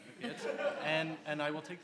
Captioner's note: laughs